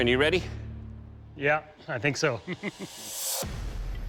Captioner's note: chuckles